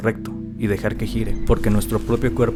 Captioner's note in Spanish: El sonido del disco se transforma en el latido de un corazón o un ultrasonido